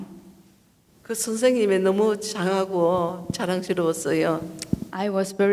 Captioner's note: speaking foreign language